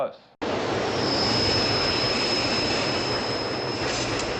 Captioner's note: train screeching